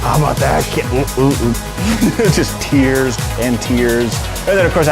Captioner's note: laughing